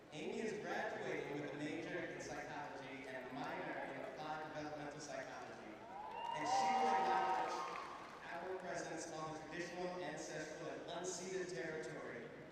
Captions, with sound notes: Amiee is graduating with a major in psychology and a minor in applied developmental psychology. [cheering] And she will acknowledge our presence on the traditional, ancestral, and unceded territory